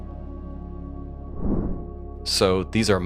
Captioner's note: air whooshes